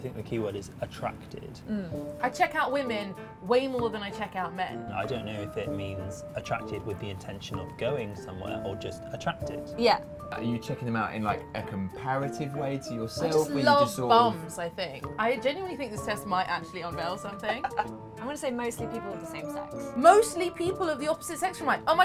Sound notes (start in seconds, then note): 17.6 laughing